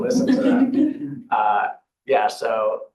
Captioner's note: laughter